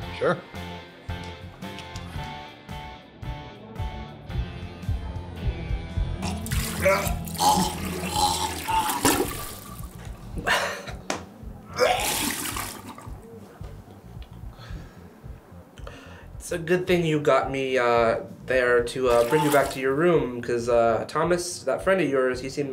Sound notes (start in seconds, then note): 1.1 gentle rock music continues; 6.2 Sebastian puking; 10.4 chuckles; 11.7 Sebastian puking